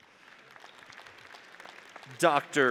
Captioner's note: audience applauds